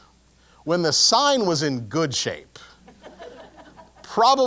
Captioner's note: laugh